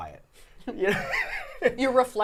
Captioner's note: laughing